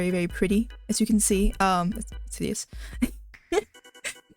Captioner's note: laughter